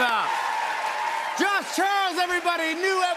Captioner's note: cheers and applause